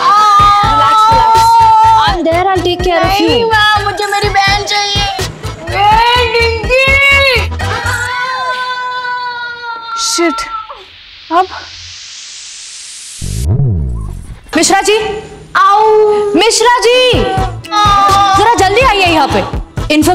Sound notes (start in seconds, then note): 0.0 screaming; 7.6 Aditi screaming; 17.6 Aditi screaming